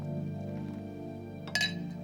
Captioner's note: gentle music; cap popping; glasses clinking